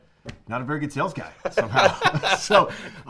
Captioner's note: laughing; laughter